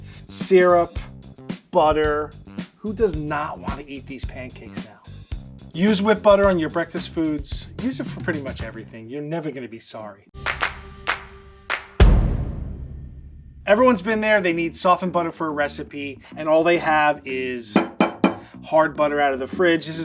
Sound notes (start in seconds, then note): 10.4 lively percussive music; 17.8 butter thudding